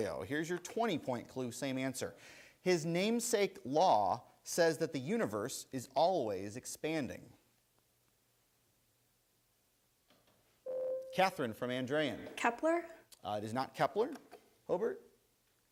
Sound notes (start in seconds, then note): 10.6 bell rings